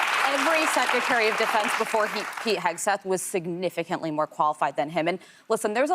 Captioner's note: applause